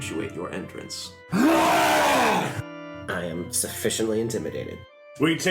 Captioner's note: long wookie roar